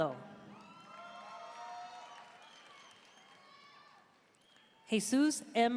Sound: audience cheering and applauding

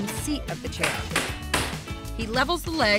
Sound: hammering

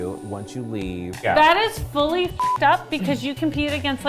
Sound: beep

